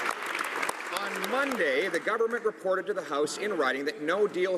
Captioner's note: some Applause